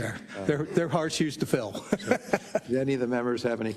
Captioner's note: laugh